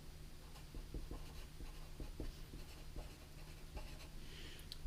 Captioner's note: pen scratching